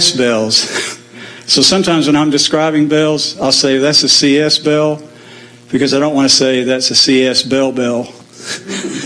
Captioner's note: laugh